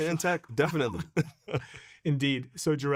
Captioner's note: both chuckling